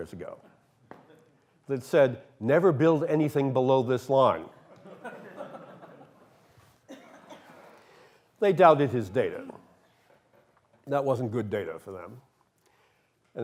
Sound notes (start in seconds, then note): 4.5 laughter